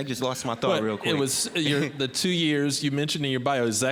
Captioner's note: audience laughing